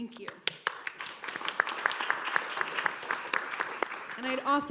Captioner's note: applause